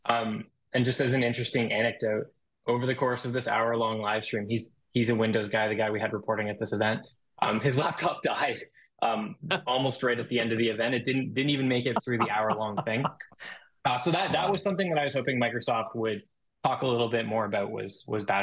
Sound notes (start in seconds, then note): 9.1 host chuckling; 12.7 host laughing